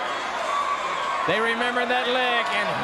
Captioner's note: crowd cheering